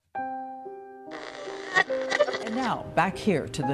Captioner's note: raspy electronic static